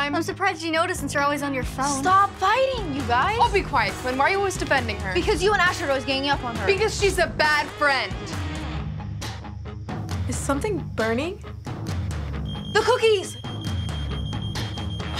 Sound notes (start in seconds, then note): 12.3 alarm beeping